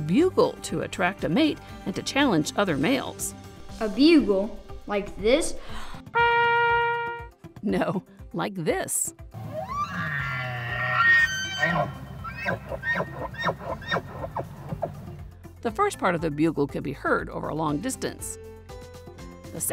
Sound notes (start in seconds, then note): 6.1 horn; 9.4 elk bugles